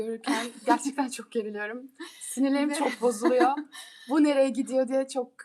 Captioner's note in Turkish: kahkaha